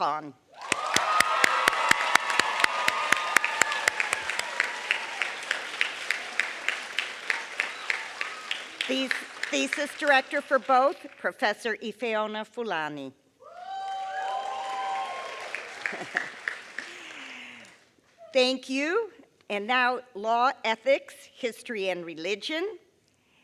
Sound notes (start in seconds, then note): 3.3 applause; 16.1 applause